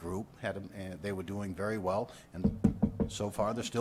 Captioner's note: knocking on wood sound